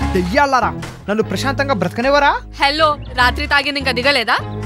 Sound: none

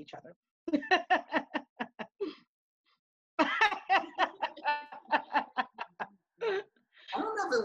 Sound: laughing

